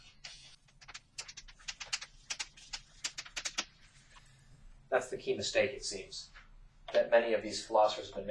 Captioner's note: writing on chalkboard sounds